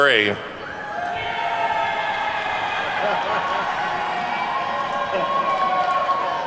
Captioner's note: attendees whooping and clapping